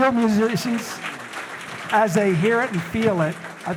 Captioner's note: audience applauding